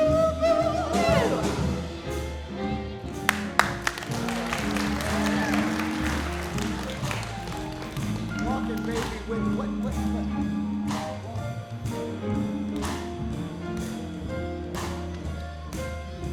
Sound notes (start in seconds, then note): 3.2 applause; 7.5 jazz music